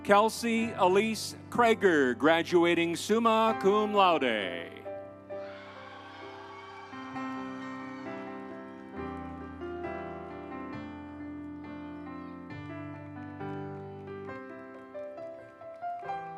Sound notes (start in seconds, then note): 5.4 audience cheering; 5.6 instrumental music